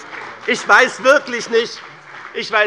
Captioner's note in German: Beifall bei BÜNDNIS 90/DIE GRÜNEN und der CDU